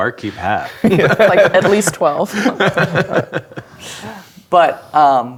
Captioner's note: players laughing